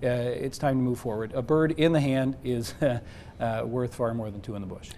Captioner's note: chuckling